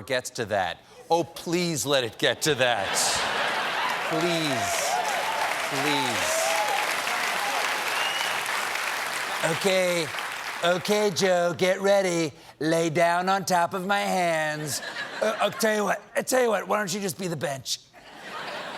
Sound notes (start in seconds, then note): 2.4 laughter; 6.3 cheers and applause